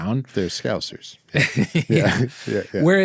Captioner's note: laughs